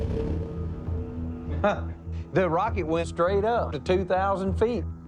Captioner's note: laughs